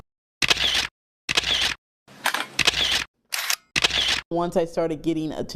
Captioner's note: camera clicking